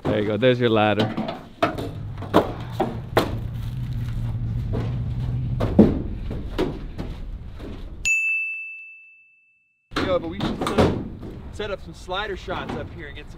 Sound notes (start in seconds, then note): 2.7 metal clinking sounds; 8.1 bell chimes once